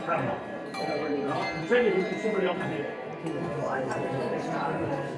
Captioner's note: handbells ringing